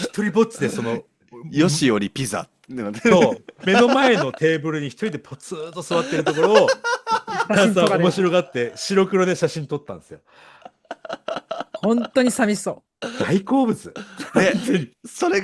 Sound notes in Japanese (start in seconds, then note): 6.7 笑い; 14.0 咳払い; 14.8 笑い